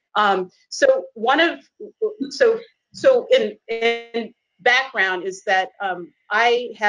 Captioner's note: murmurs